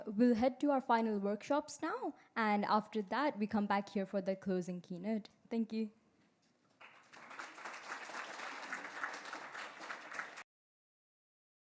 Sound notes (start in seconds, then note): 6.7 applause